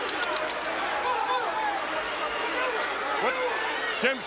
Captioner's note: shouts